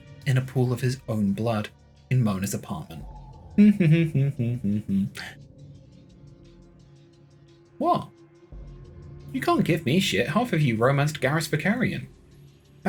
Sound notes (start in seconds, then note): 3.6 humming to themselves